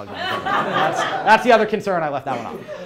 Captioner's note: crowd laughs